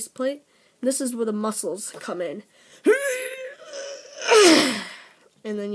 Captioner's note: grunts